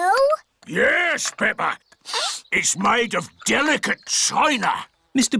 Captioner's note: sniffs